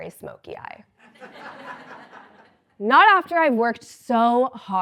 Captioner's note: laugh